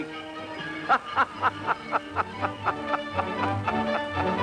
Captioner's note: Santa laughs